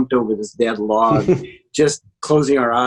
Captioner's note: chuckles